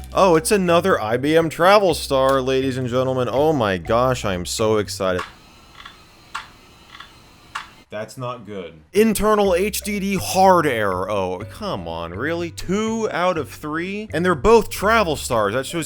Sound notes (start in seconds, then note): 5.1 hard drive clicking